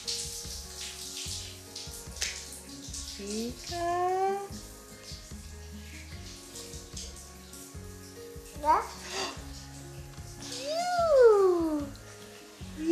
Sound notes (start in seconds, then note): 0.1 shower water flowing; 9.0 gasping